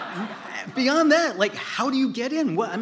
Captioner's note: laughter